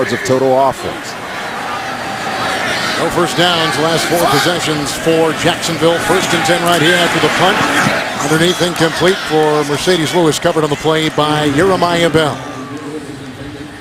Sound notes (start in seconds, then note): 4.3 laughs